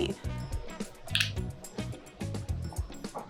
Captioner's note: paint tube cap opening